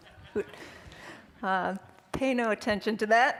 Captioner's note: all laughing